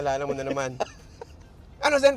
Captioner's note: laughs